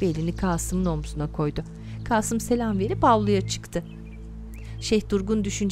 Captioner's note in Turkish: Kuş cıvıltısı sesi